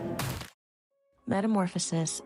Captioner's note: thud